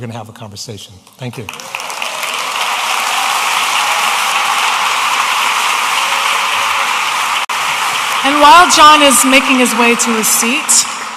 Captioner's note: audience applauding